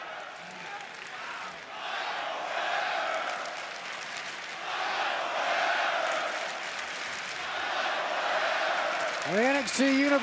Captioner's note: fans chanting